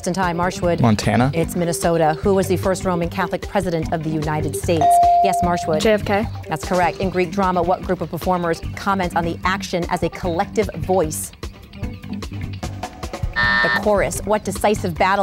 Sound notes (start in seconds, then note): 4.8 ding; 13.4 buzz